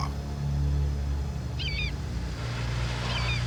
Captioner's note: bird calling